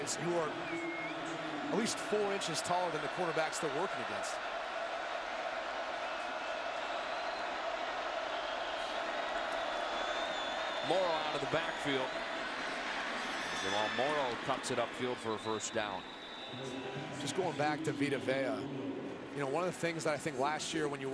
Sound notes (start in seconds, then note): 5.1 crowd cheering